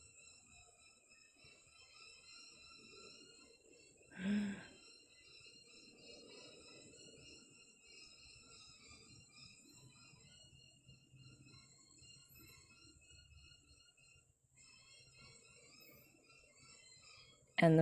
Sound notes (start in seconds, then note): 4.2 gasps